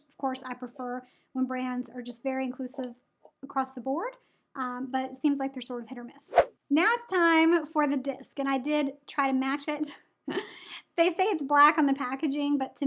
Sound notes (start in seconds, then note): 6.3 air whooshes; 10.2 chuckles